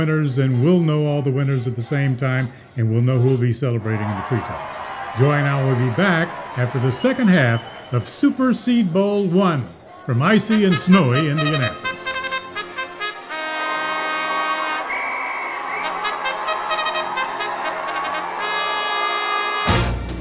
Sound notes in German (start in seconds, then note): 14.9 Menge Beifall; 19.6 Wettbewerbs-Musik